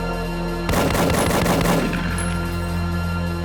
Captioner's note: suspenseful music; gunshots blasting; suspenseful music